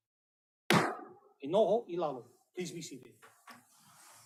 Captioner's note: gavel bangs once